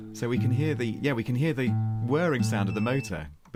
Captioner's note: beep Beeeep